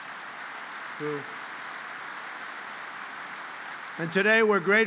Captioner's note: applause